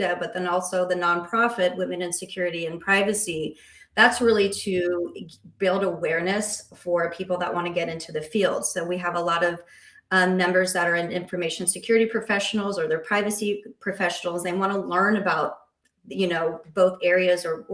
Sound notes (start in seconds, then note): none